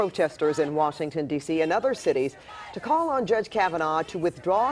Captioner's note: chanting